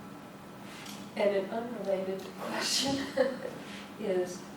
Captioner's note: laughs